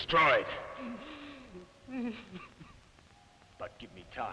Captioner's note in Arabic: برونو يبكي